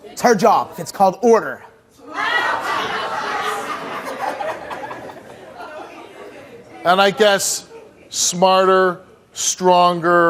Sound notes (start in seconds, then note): 2.2 audience laughing